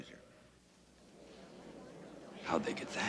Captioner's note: commotion from crowd